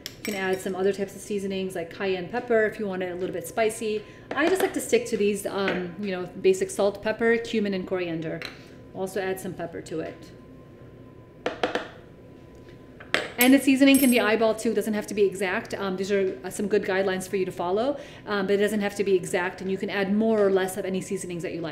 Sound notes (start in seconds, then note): 11.6 container clanking